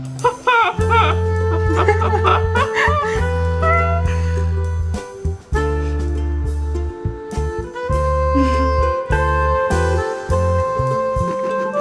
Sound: laughter

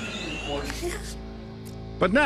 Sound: laughs

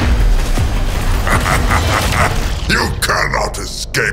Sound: Calus Laugh

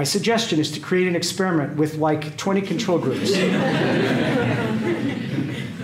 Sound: laughter

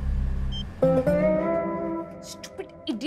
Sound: cell phone beeps

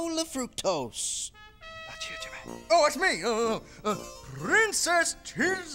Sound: whispering

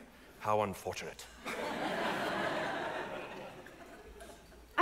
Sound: audience laughs

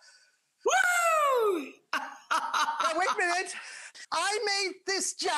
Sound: laughing

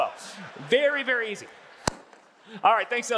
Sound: audience laughing

